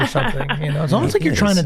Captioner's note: laughs